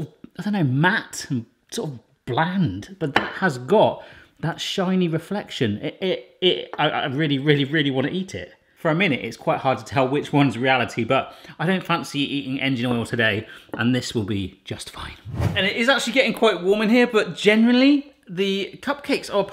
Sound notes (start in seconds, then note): 15.2 wind gust transition effect